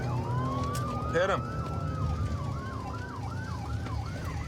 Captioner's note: sirens wailing